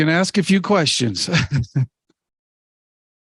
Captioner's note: laughs